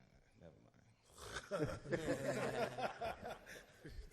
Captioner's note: laughs